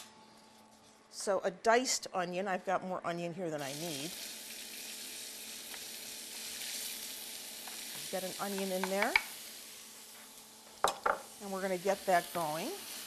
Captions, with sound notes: So, a diced onion, I've got more onion here than I need. [sizzling] We've got an onion in there. And we're going to get that going